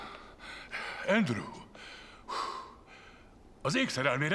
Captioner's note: panting, coughing